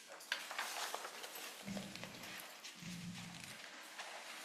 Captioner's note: paper rustling